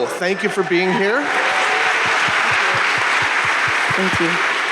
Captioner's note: audience applauding